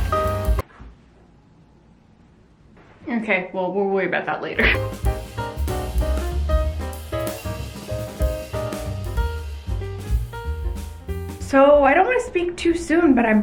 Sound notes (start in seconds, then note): 0.0 music stops